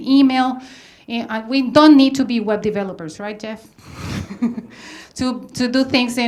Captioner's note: laughs